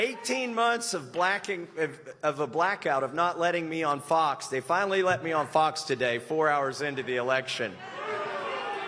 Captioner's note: applause